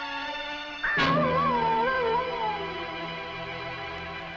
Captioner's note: animal howling